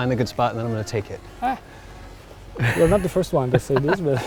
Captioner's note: laughs